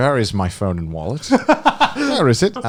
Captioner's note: laughing